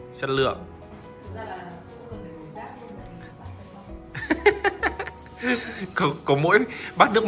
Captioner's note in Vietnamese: tiếng cười